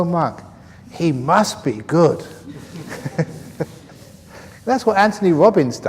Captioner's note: laughs